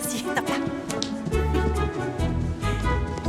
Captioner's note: chuckling